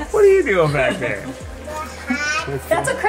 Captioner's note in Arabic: ضحك